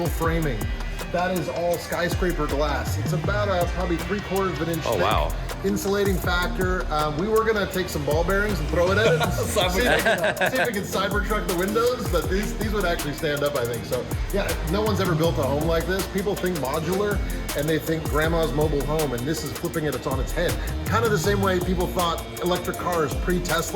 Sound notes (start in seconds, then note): 8.8 laughing